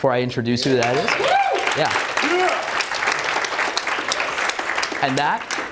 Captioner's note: audience applauds